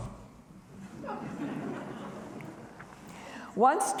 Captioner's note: audience laughing